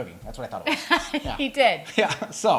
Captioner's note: laughs